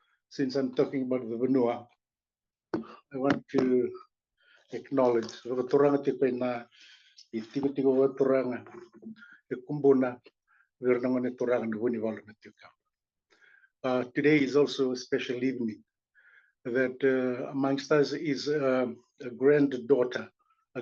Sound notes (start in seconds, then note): 7.8 non-english speech